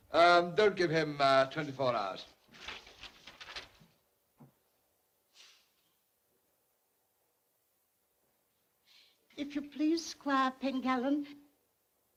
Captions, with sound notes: Uh, don't give him uh, 24 hours. (pages rustle) If you please, Squire Pengallan.